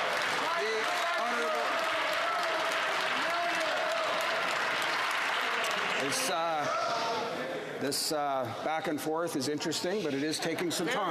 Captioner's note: some Applause